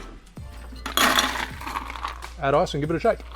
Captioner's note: ice clanking